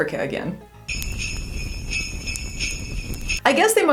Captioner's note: jingle bells ringing